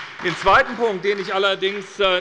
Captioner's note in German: Beifall bei der SPD